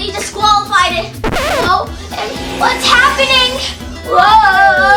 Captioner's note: scratch sound